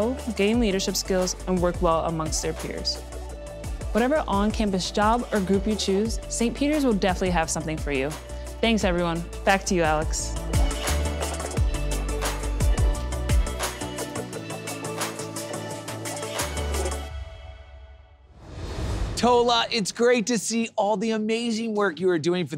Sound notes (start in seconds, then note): 18.1 graphics whoosh